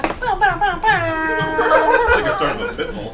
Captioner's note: imitates horn